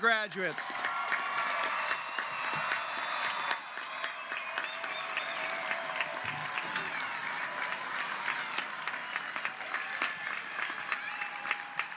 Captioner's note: applause and Cheering